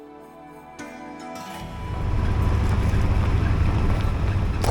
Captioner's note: truck engine revving